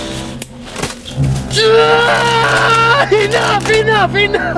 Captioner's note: screaming in pain